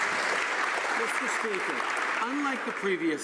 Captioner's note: some Applause